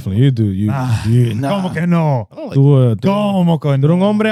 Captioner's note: speaking In Foreign Language